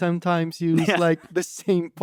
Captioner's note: laughs